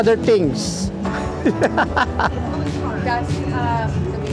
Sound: laughing

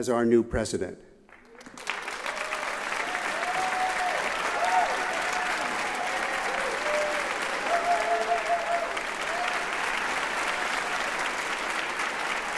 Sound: applause and cheers

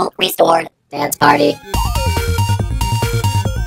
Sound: robotic voice

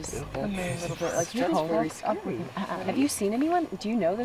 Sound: chattering

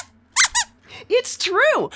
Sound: squeaks squeaks

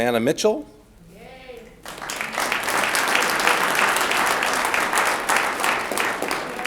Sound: audience cheers and applauds

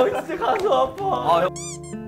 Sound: patting

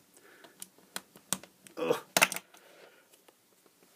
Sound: he grunts with effort

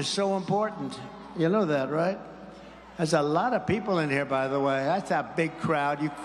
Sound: cheers

